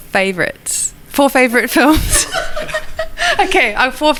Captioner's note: laughs